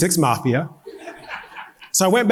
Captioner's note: audience laughing